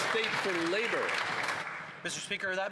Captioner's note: some Applause